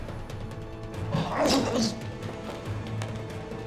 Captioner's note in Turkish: İnleme sesi; Müzik - Gerilim